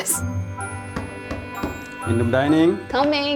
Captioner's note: knock on door